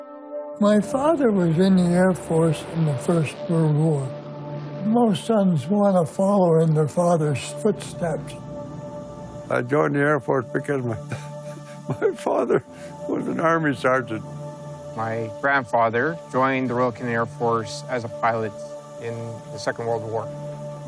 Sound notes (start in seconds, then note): 10.9 chuckling